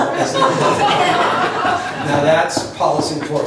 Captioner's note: laughs